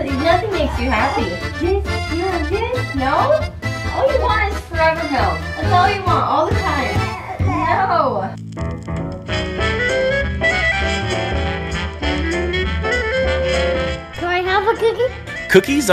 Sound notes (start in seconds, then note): 6.6 babbles; 7.5 upbeat jazz music